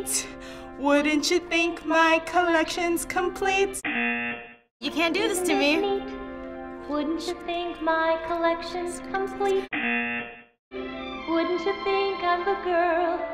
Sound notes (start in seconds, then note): 3.8 buzzer; 5.7 whispering; 9.7 buzzer